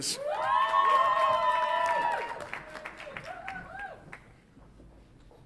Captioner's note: audience applauds and cheers